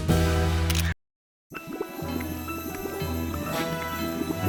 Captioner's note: quicksand bubbling